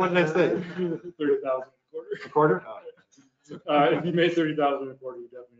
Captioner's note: all laugh